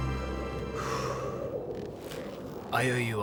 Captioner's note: sighs